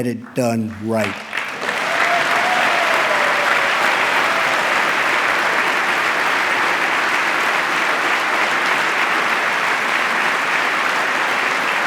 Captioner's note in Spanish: aplauso